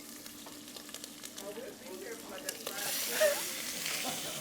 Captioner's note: chicken sizzling